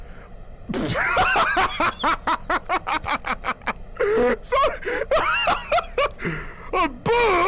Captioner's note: laughing